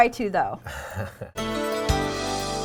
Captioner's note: laughing